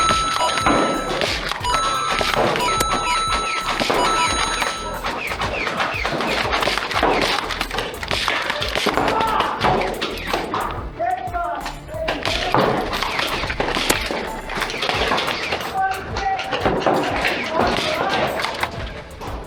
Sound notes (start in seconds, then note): 0.0 rapid dinging; 0.0 video game dinging noise with battle sounds; 5.9 motors revving and blasters thunking; 9.0 pained yelp; 12.2 motors revving and blasters thunking